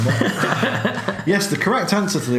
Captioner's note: laughs